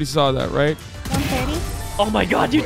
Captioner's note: gunshots